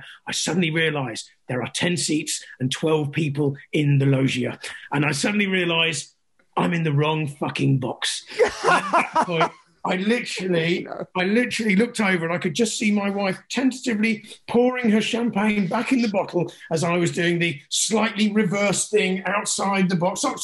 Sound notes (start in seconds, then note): 8.2 laughs